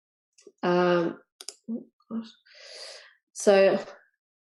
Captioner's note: mouse clicks